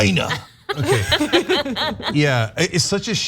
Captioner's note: laugh